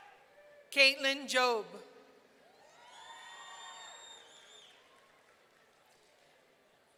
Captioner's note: audience cheering